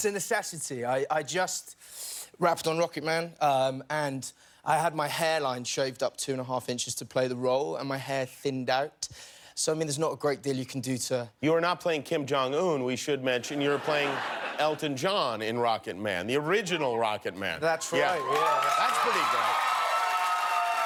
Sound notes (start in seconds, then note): 15.4 laughter